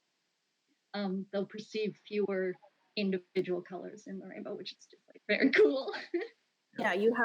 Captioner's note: laughs